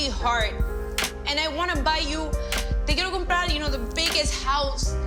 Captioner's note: speaking Spanish